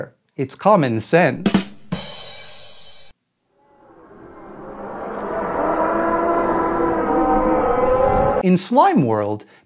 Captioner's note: A rimshot sound effect, followed by slowly escalating Hellish noises